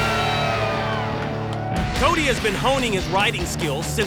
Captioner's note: cheering